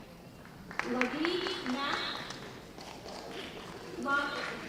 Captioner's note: applause